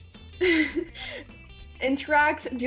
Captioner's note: laughs